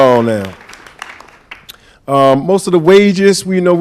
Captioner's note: applause